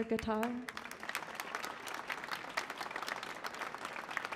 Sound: applause

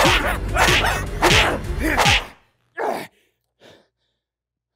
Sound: panting

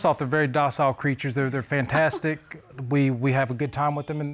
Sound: sniggers

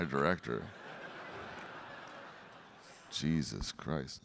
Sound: audience laughing

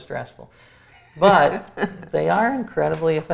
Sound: laughs

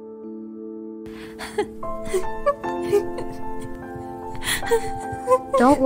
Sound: crying

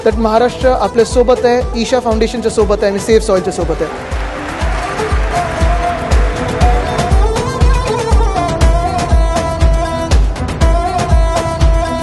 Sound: cheering/Applause; speaks in Marathi - not transcribed

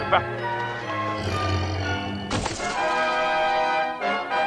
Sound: creature roars

